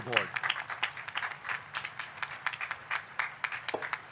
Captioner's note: audience clapping